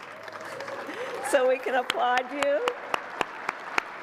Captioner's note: applause